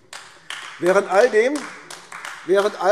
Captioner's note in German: Beifall AfD